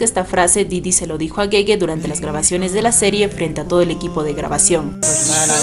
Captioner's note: laughs